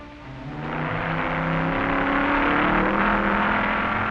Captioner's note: hot rods revving